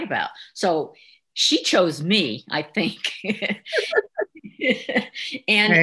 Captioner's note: chuckles